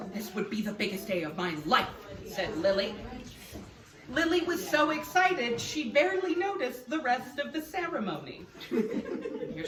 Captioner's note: laughs